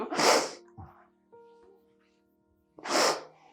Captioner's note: sniffling